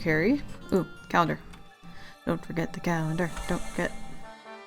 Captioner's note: sing song chat